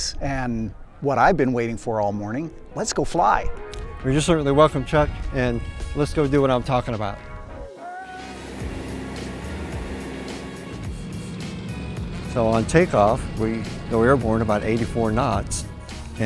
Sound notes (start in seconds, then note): 8.8 smooth upbeat music; 10.4 engine props motoring